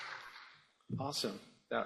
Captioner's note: applause